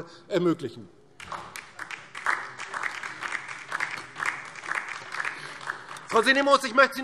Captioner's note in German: Beifall DIE LINKE